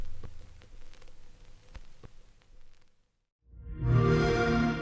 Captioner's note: shellac record crackles